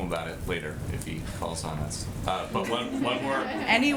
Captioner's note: laughter